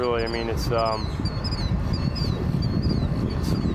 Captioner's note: wind blowing